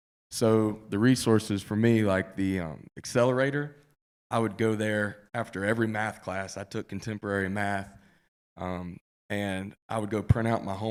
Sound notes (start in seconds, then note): none